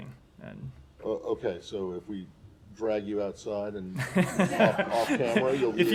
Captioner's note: laughter